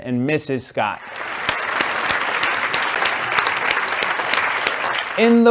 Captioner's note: audience clapping